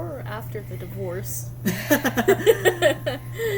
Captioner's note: laugh